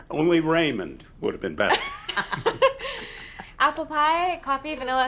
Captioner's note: all laughing